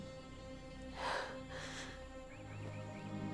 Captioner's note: Sighs